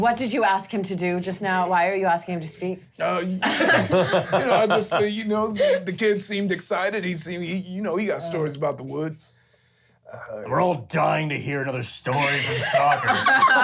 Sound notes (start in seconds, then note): 3.4 laughing; 12.2 all laugh